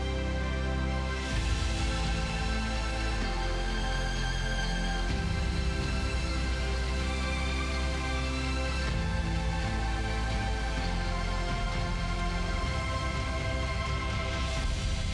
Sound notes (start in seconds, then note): none